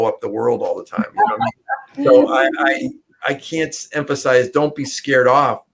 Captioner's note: laughter